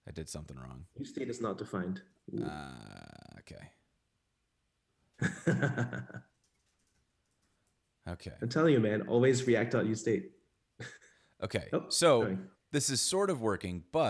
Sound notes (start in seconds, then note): 5.2 laughs